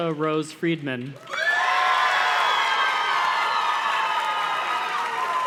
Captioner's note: audience cheers and claps